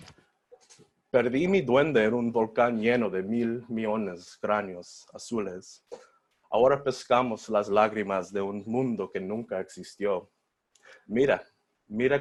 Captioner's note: foreign Language